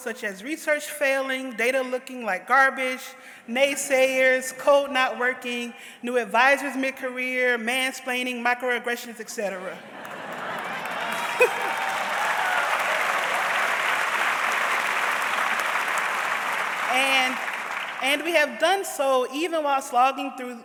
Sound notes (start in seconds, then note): 9.9 audience laughs; 10.1 audience cheers